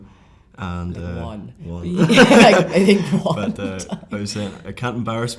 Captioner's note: laughs